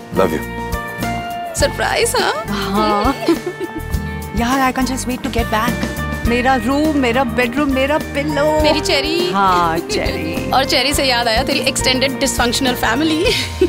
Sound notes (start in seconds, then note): 2.1 laughing